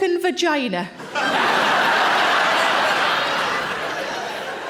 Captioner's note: audience laughing